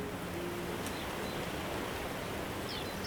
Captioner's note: birds chirping